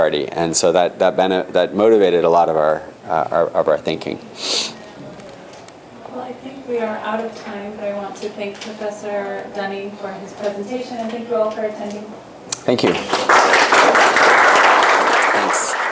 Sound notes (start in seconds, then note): 12.8 applause